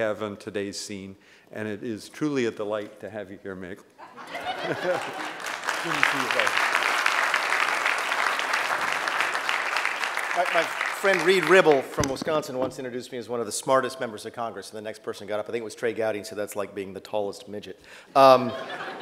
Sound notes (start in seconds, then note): 4.0 laughter; 4.0 laughs; 8.7 applause